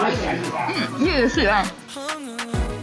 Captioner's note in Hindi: बड़बड़ाता है